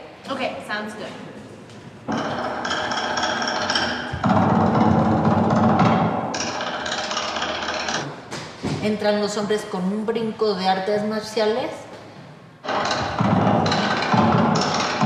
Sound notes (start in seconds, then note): 3.3 drums; 8.9 speaks Spanish